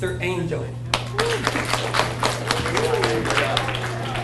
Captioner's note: audience cheers and applauds